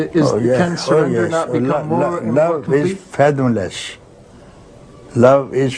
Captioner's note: none